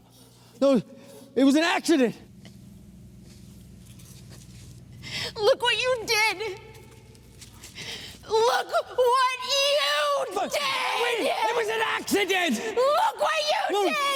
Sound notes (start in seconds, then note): 8.2 crying and shouting